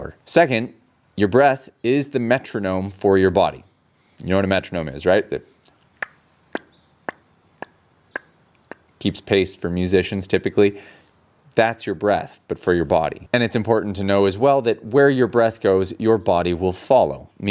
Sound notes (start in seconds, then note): 5.5 imitates metronome ticking